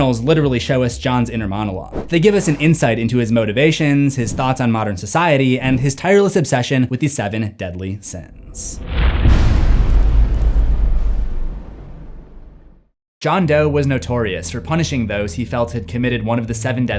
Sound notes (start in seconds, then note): 8.4 impact